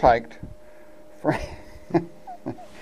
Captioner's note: laughs